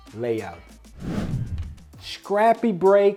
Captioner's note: air swooshing